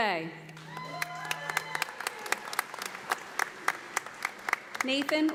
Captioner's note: audience applauding